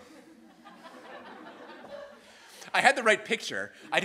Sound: students laughing

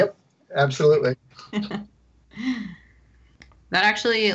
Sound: laughs

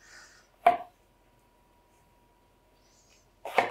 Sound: loud chopping

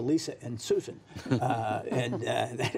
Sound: laughter

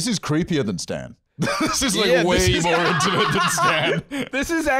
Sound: laughing

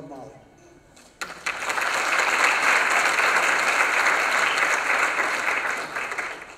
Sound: applause

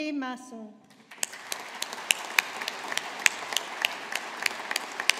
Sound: audience applauding

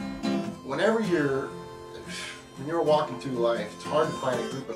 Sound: sighs

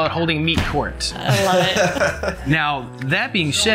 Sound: laughter

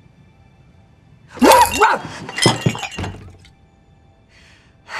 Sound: Olivia barks

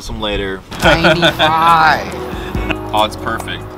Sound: laughs

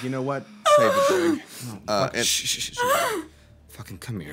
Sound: crying

